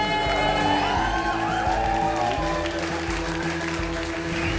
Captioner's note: crowd applauds